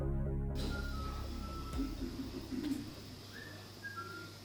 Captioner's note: whistling